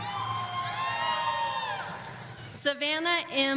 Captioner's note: audience cheering